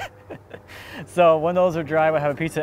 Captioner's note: chuckling